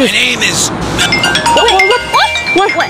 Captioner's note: phone ringing